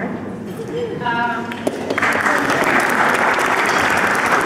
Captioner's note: applause